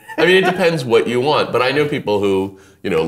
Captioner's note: laughing